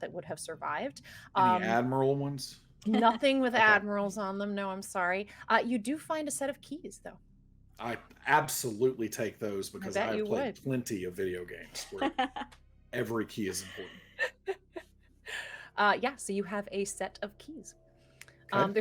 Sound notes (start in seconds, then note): 13.5 everyone laughs